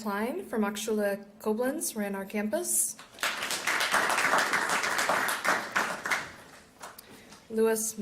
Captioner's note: applause